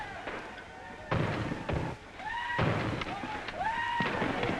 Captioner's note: banging on door